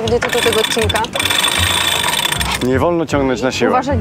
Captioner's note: pipe sound